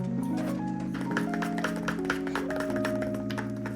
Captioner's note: upbeat music; tapping; upbeat music